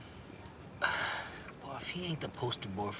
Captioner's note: sighs